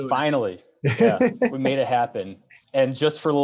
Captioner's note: laughing